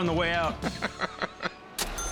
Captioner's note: laughing